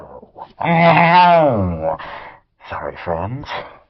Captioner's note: makes guitar sound